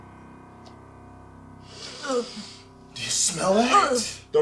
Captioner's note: gagging